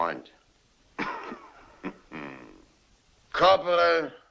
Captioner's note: chuckles